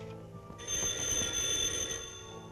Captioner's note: phone ringing